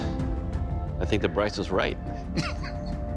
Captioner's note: laughs